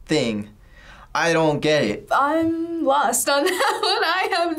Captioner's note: laughs